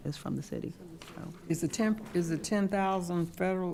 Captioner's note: speaking quietly